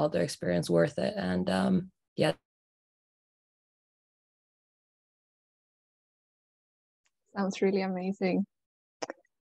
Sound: audio cuts off

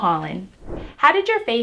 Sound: whooshing sound

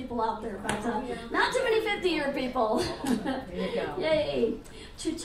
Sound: laughs

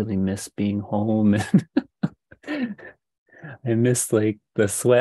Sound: laughs

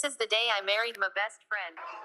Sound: electronic voice

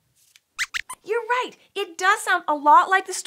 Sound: squeaks

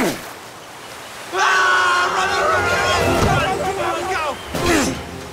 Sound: grunting; screaming; grunting

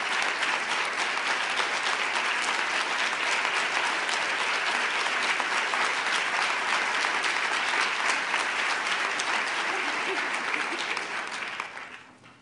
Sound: applause

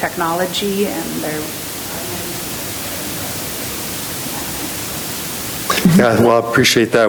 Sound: speaking distantly

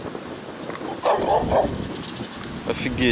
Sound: bow wow wow

